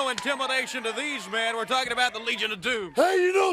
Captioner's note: crowd cheering